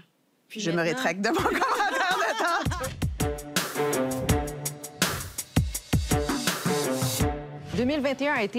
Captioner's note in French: rires